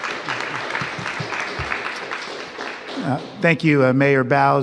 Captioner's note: applause